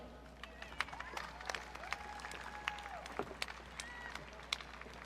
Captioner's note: audience cheering